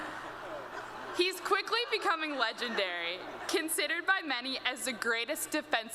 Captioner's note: laughter